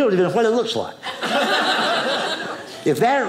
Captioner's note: audience laughing